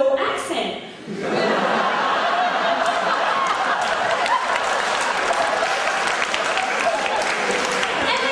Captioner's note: grins while audience laughs